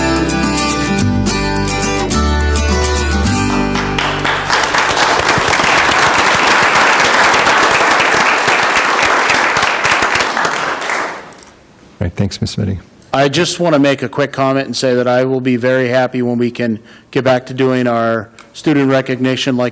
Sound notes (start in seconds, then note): 3.2 audience applauding